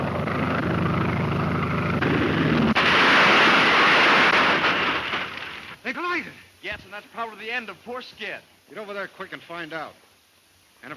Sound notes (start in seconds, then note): 2.0 airplanes crash